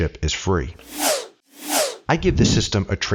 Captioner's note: air whooshing